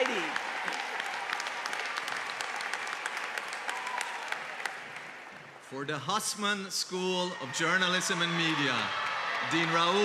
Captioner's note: applause